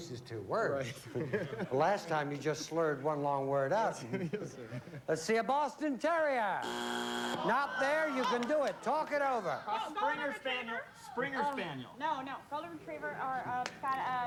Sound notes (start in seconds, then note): 6.6 buzzer